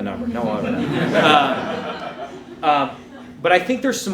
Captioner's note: laughing